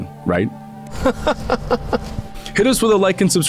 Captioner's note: laughter